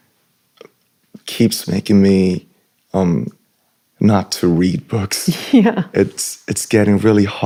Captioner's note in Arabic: ضحك